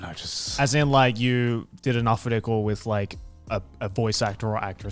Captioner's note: speaking in Japanese